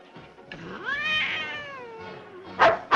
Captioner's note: cat hissing; dogs barking